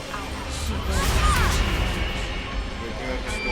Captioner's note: ghostly Voice; voices chattering